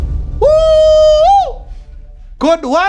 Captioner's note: screams